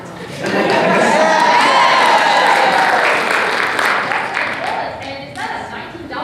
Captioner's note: AUDIENCE applauds